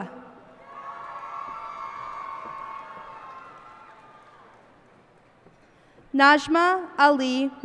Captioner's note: cheers and applause